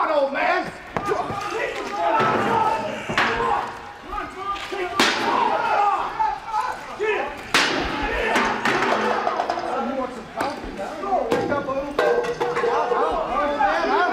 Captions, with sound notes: COME ON, OLD MAN. >> [CROWD CHATTER]